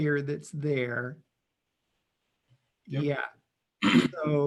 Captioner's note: clears throat